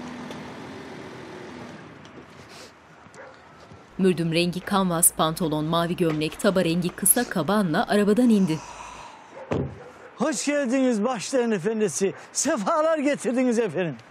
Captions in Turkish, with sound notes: (Köpek sesi) Hoş geldiniz bahşişlerin efendisi. Sefalar getirdiniz efendim.